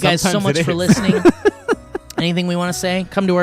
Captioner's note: guys laughing